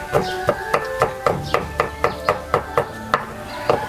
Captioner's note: chopping